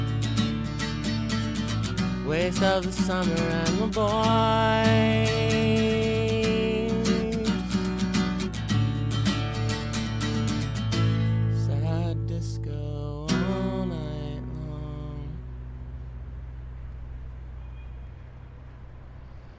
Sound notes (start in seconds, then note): 16.2 traffic rumbling